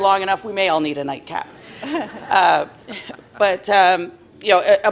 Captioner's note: laughter